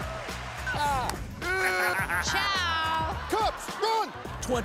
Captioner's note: cheers and laughter